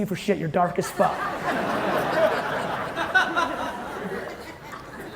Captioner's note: audience laughing